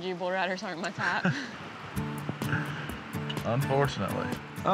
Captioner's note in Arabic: يضحك